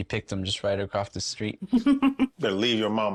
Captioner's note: laughing